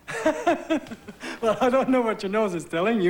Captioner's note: forced laughter